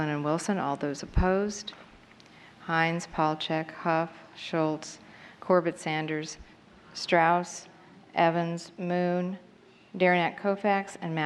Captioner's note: counting